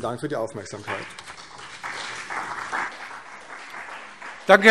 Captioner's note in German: Vereinzelter Beifall CDU und BÜNDNIS 90/DIE GRÜNEN